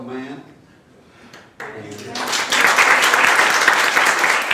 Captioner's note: clapping